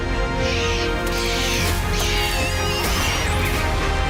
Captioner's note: dramatic music; monkeys screeching